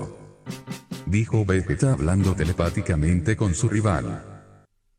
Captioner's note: Vegeta said speaking telepathically with his rival